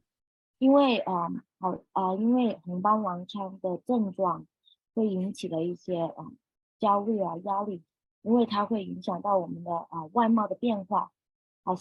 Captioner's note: speaking chinese